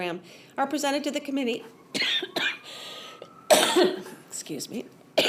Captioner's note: coughs